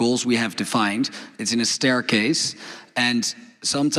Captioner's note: none